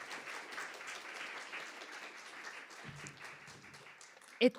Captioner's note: audience applauding